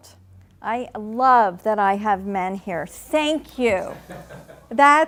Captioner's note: laughing